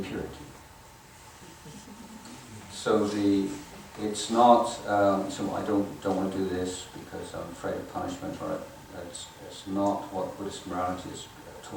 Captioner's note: audience laughing